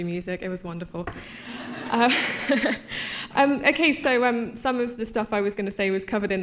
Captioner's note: laughter